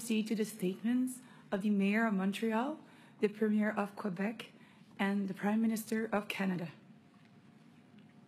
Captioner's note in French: voix de l'interprète